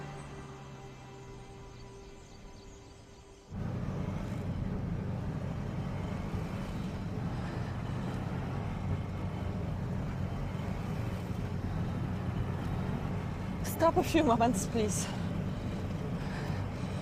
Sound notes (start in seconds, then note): 3.6 engine rumbling